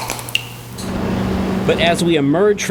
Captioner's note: water dripping; whirring